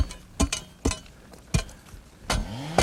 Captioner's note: shovel clanking; chainsaw buzzing